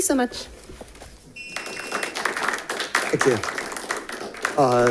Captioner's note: audience applauding